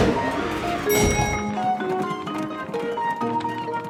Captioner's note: dinging